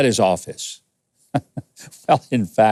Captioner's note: chuckles